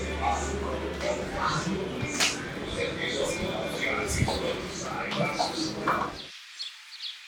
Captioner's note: radio playing; birds chirping